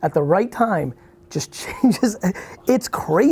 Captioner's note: laughs